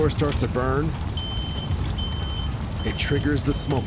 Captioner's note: smoke alarm beeping